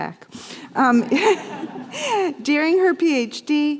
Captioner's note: laughter